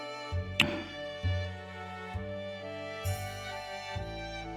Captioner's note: kiss